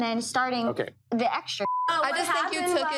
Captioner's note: beep